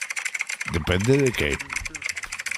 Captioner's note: keyboard clicks